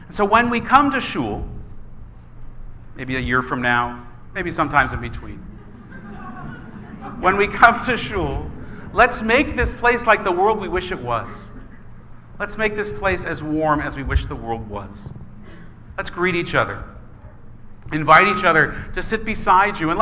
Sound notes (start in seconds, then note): 5.4 laughing